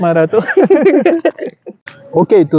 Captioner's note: both langhing